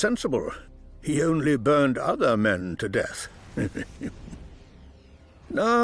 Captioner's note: chuckling